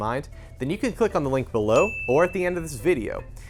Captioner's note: beep